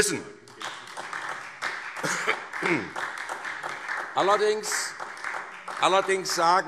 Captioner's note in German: Beifall SPD